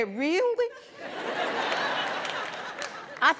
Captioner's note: laughter